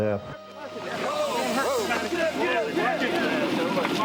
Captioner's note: men exclaiming